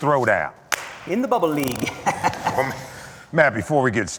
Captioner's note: chuckles